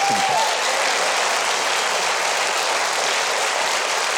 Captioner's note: audience applauds